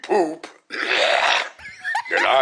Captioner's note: guttural Noise